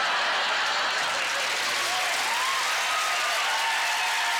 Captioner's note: audience laughter; audience cheers and applause